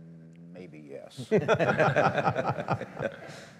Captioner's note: laughter